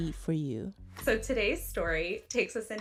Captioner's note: soundbite of podcast, "normal gossip"